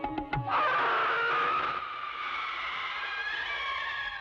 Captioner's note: screaming